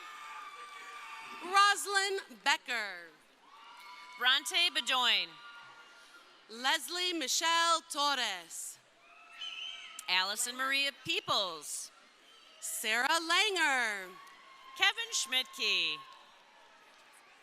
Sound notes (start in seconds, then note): 3.2 crowd cheering; 8.9 crowd cheering